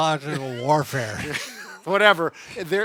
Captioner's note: chuckling